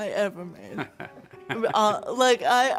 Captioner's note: chuckles